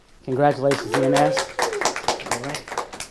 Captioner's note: audience applauding; audience cheering